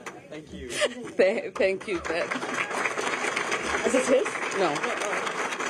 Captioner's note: laughter